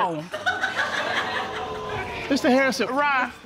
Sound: audience laughing

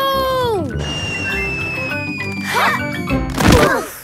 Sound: whistling through air

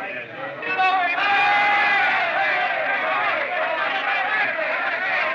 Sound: chattering; cheering

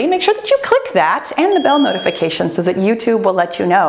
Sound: bell chimes

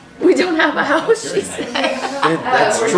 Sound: laughing

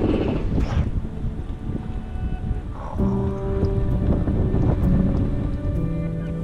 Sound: wind blowing; upbeat music

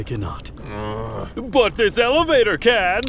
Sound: sighs

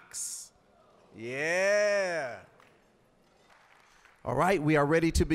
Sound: applause

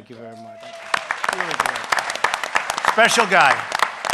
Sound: applause

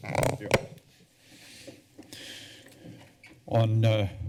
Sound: creaking sound; breathing sound

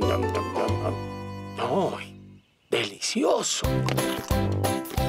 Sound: slurping

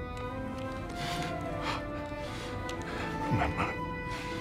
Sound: gasping

